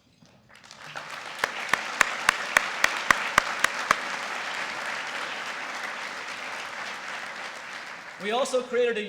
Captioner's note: applause